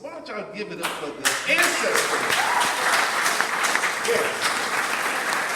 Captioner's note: audience applauding